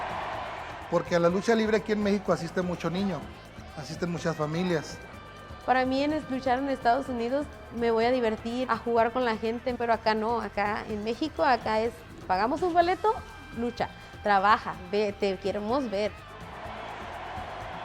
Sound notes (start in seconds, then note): 5.4 Rey Misterio speaking Spanish; 5.4 speaking Spanish